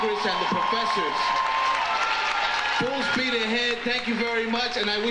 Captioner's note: audience applauding